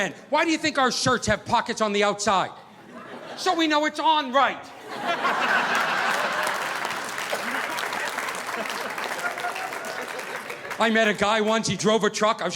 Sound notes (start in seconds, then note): 4.7 audience laughing; 5.0 audience applauding